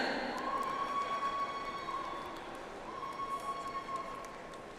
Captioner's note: audience applauds